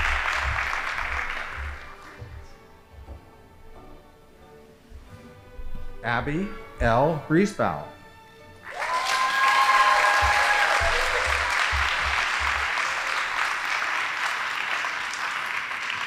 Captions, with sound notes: Abby L. Reesebell. (audience applauding)